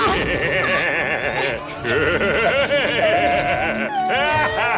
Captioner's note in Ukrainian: сміх робота